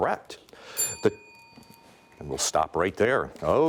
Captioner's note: timer dings